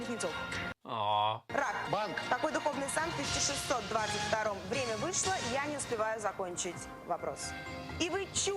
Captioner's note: moans